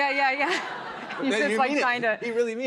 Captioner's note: laughter